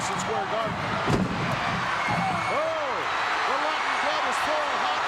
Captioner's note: audience cheering